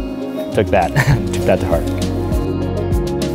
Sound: laughs

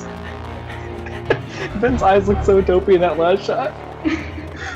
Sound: laughs

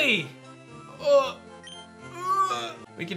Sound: groans

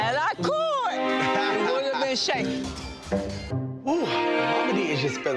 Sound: laughs

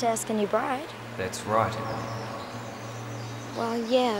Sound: voiceover

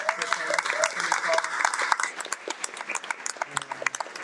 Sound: everyone applauds

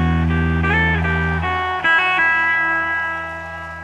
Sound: audience cheers

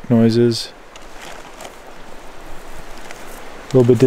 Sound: water flowing

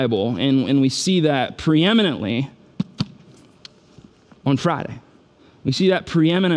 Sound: book thuds

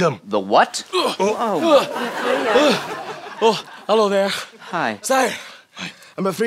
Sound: groaning

